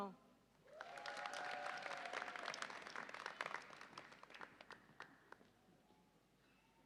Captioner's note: audience applauds and cheers